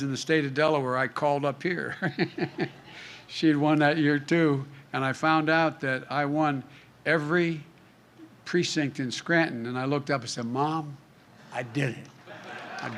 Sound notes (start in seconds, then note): 2.1 laughs; 12.2 laughter